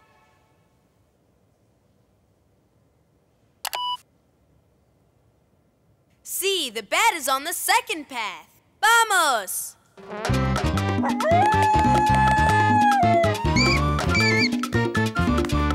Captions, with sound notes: Sí, the bat is on the second path. ¡Vamos! [howling] [squeaking]